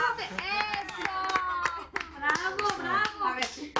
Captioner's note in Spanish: Aplausos